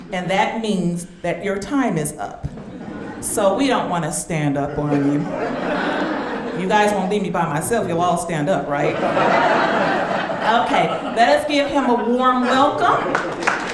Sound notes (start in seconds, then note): 6.2 audience laughing; 9.4 audience laughing